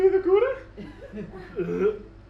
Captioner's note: gags